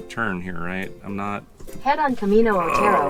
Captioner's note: groans in frustration